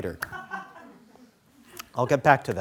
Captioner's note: scattering laughing